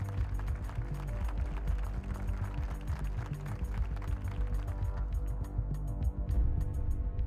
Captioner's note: aplausos